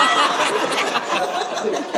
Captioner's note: audience laughing